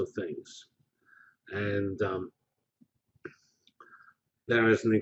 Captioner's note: pause